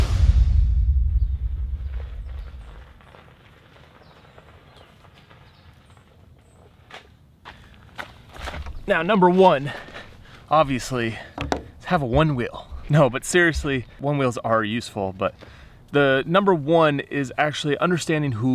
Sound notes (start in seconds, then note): 3.8 birds chirping